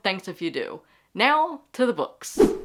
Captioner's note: whoosh